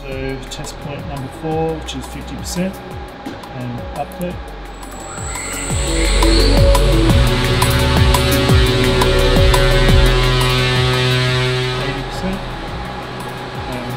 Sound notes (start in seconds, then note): 4.8 machine buzzing